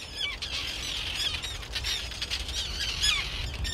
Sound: birds calling

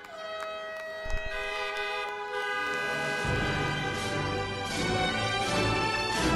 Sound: cars honking

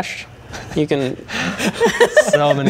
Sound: laughing

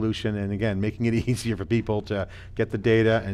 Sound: laughing

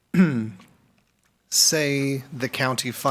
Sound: clears throat

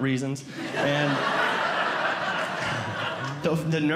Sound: audience Laughing

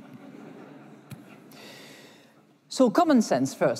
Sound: laughter

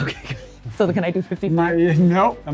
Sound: laughs

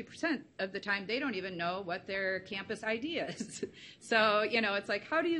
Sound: chuckles

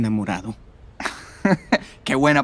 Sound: Romeo laughing

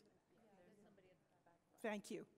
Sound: voiceover

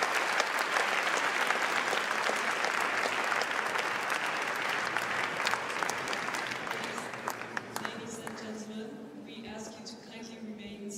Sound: applause

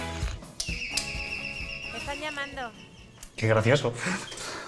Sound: chime of birds

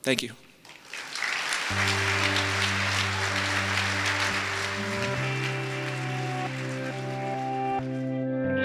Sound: applause

